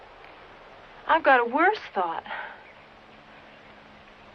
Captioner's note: none